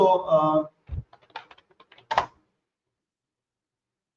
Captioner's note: typing